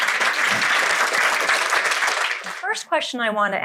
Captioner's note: audience applauding